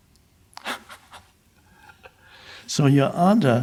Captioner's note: laughs